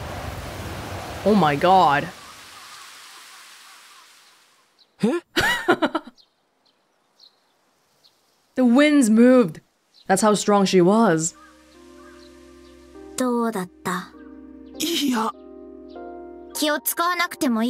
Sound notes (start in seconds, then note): 5.0 chuckles